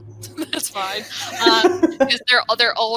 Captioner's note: laughs